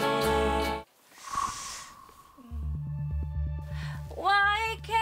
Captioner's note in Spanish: Suspiro